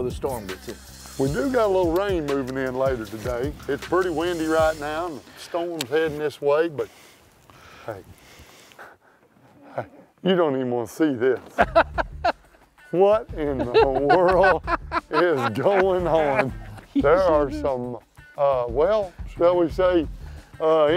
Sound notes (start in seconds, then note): 11.4 laughs